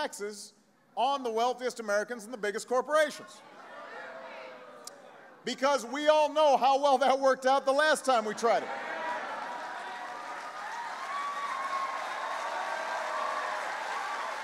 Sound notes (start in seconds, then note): 10.7 applause